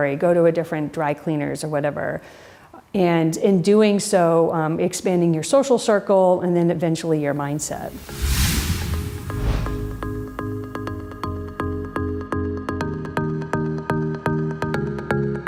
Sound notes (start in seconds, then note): 7.4 air whooshing; 7.9 upbeat music